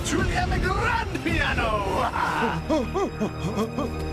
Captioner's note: blubbering